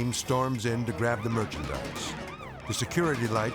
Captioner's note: alarm wailing